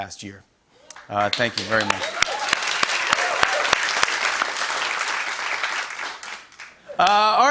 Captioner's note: cheers and applause